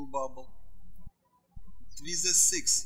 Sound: birds chirping

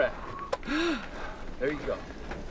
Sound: gasps

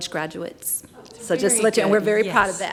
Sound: audience exclaims

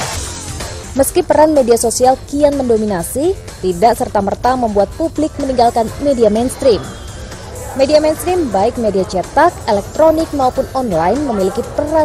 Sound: non-english speech

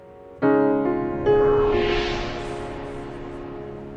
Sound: swishing

